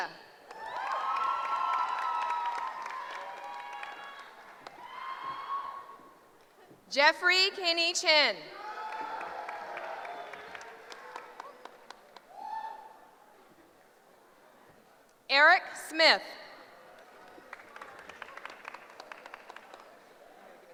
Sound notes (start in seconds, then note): 0.4 applause; 8.8 applause; 16.6 cheering